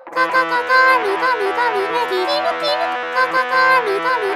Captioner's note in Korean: 끼룩끼룩